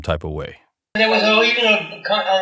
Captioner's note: soundbite of archived recording